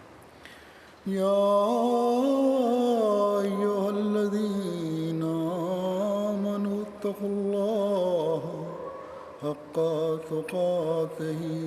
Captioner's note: Arabic, Holy Qur'an 3:103-104